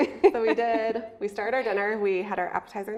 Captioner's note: laughing